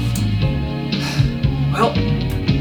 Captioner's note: sigh